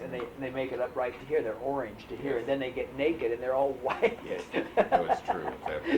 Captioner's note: laughs